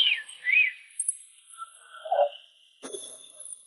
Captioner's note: whistling